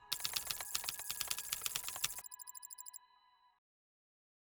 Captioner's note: keyboard clacking